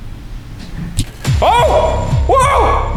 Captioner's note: ghostly whispering; tense dramatic music